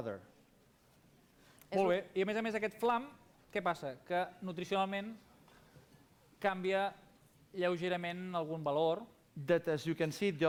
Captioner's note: non-english speech